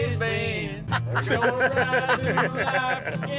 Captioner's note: laughing